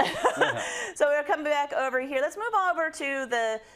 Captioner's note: laugh